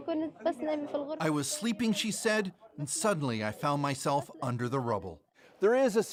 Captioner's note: speaking Alternate Language